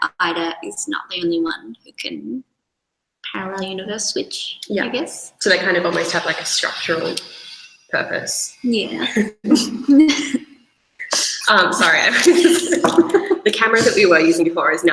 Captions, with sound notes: Ida is not the only one who can parallel universe switch. - Yeah. - I guess. - So they kind of might have like a structural purpose. - Yeah. (both chuckle) - Sorry. (laughs) The camera that we were using before